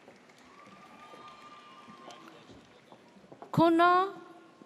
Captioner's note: audience cheers